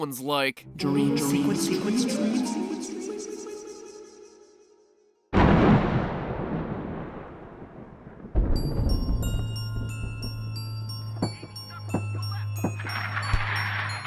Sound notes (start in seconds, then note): 3.7 silence; 5.3 thunder crack; 7.2 eerie music plays